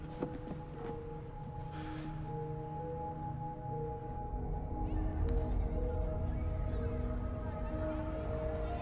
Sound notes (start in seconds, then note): 0.0 gentle suspenseful music; 5.1 voices whispering